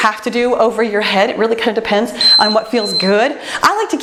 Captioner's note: timer beeps